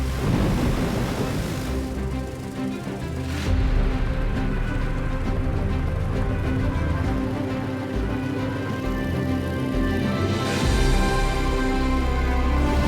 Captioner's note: thunder crashing